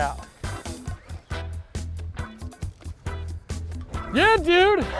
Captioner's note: reel whirring; laughs